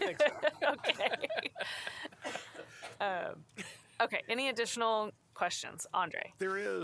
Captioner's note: laughter